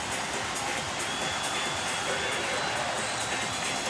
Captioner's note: crowd cheering